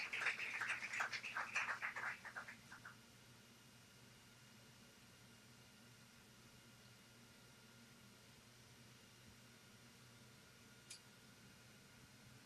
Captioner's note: applause